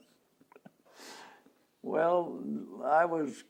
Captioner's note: laughs